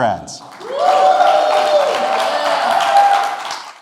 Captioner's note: applause and cheers